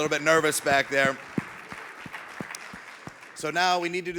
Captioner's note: audience clapping